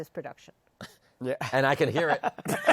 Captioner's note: laughter